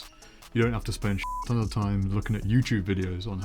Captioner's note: beep